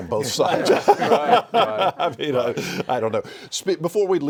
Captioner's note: all laugh